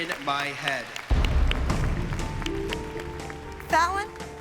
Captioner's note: applause